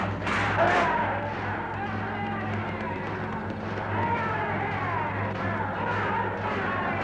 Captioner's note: metal banging continues; men yelling